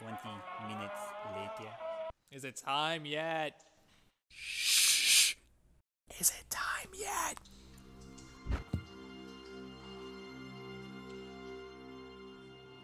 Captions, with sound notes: Is it time yeeet?! Shhhhhh! *whisper* Is it time yet?